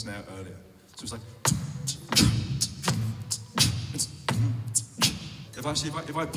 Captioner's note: beat boxing